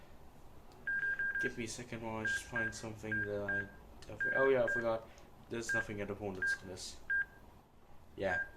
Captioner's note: continuedBeeping noises